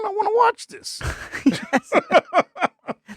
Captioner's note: both laughing